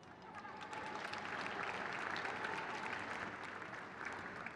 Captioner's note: crowd cheers